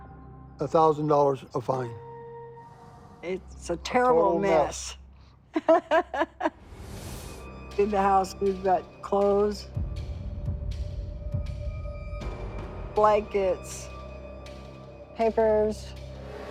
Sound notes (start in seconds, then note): 5.5 laughs; 9.6 tense music